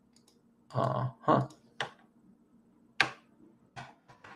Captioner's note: keyboard clicks